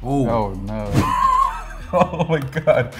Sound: laughing

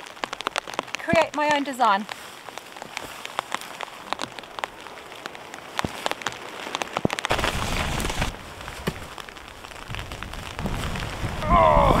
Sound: sleet and snow sounds

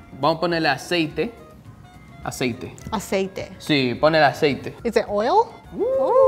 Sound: speaking in foreign language

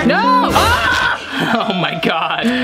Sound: screams

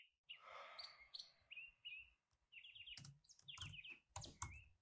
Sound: Thomas sighs; keyboard clicking

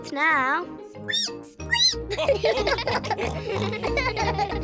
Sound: squeaks; all giggle

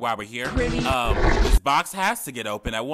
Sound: loud roar

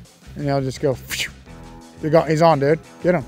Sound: mimics fishing line casting sound

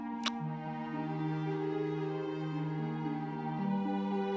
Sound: lips smack

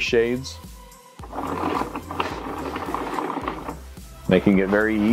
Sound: sound of shades moving

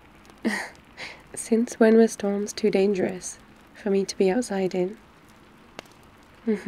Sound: laughs

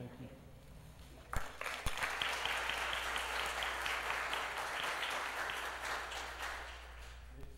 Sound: applause

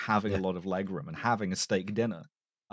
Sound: none

